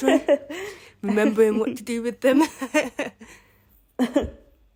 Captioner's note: chuckles